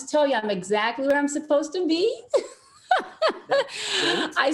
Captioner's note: laughs